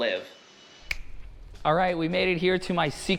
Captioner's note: fingers snapping